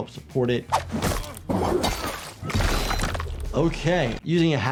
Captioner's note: characters groan, weapon slashes